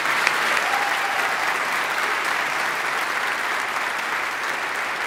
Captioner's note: audience applauding; audience cheering